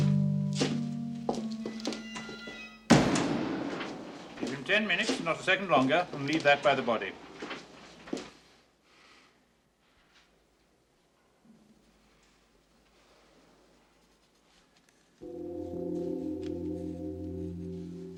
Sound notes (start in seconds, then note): 8.1 breathing heavily; 15.2 bell tolling